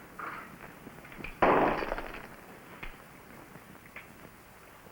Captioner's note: glass shatters